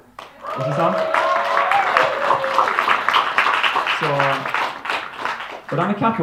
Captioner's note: applause